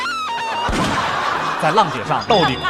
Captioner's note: forced laugh